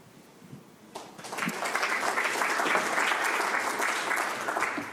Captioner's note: audience clapping